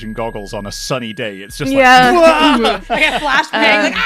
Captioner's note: laughter